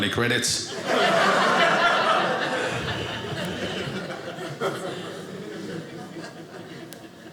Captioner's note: audience laughing